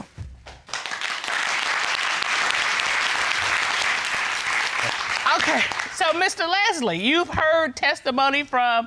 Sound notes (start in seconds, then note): 0.7 cheers and applause